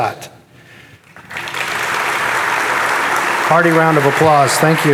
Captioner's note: audience applauding